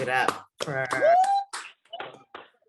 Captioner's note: aplausos y vítores